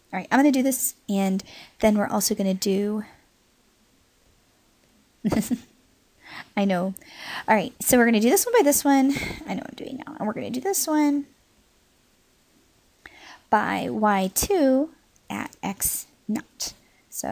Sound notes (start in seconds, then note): 5.2 chuckles